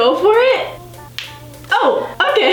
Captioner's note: popping